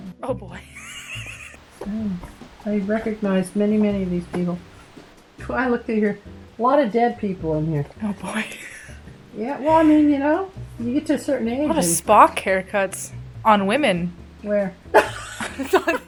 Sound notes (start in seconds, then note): 15.0 laughs